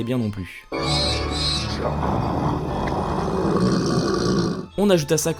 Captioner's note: disturbing sound effects of the Devil